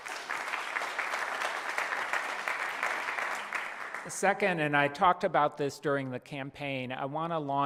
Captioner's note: applause